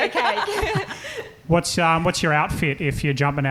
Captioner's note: laughing